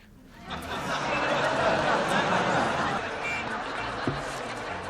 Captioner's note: laughter